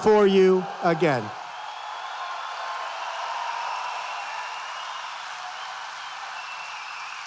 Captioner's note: applause